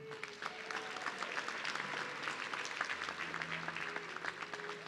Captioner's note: audience clapping